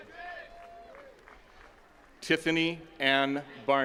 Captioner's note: attendees cheering and clapping